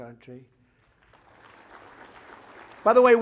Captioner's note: applause